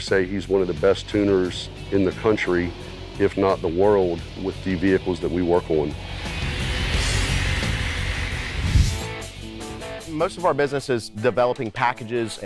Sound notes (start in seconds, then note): 6.8 car engine revving